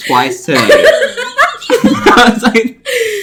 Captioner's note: laughs